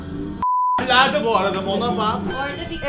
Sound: beep

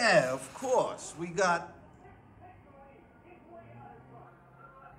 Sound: distant shouting

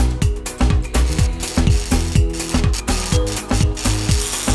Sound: welding

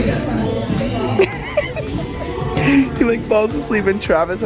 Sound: laughter

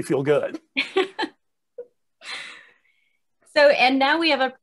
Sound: laughing

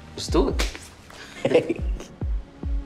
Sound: hands high fiving; group laughing

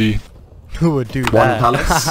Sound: laughs

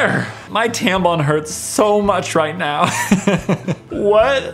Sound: laughs

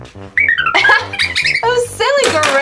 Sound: laughs

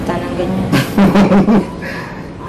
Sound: laughs

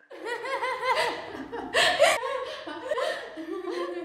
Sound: both laugh

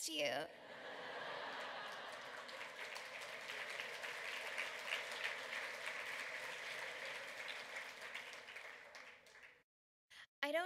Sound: laughter, applause

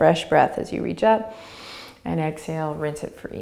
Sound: inhaling

